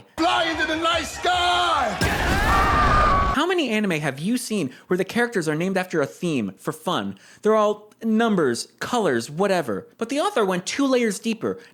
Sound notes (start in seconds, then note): 1.1 Reinhard and Regulus yelling